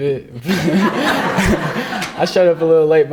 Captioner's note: all laughing